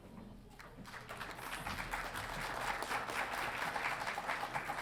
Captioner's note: audience applauding